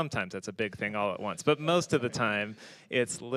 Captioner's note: panelists laughing